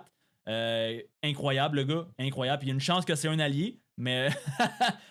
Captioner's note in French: rires